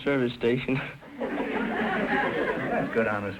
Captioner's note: audience laughter